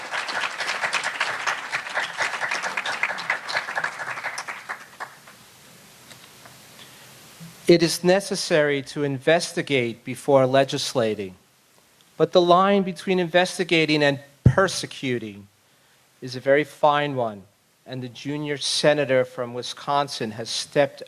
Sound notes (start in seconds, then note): 4.2 applause